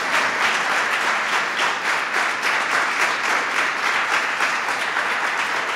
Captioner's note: applause